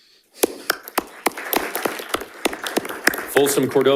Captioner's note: panelists applauding